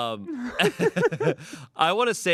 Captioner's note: everyone laughs